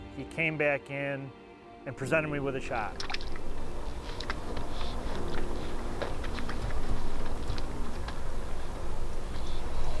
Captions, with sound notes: ae came back in and presented me with a shot. (water lapping) (quiet peaceful music)